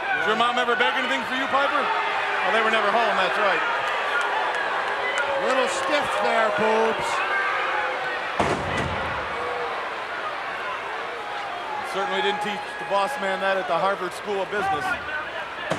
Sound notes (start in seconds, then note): 8.4 Boss Man thuds; 9.1 crowd chattering